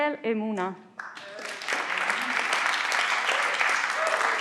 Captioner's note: everyone claps